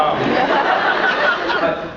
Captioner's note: crowd laughs